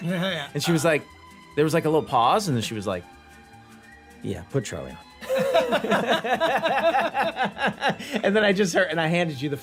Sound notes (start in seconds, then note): 5.2 laughter